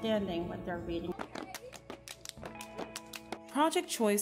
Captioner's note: Greek Life Crowd Clapping